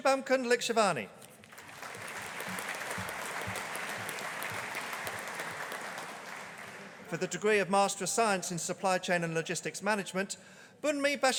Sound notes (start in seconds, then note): 1.4 audience applauding